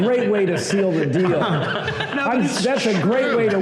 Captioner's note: laughter